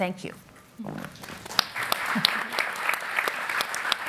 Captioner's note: applauding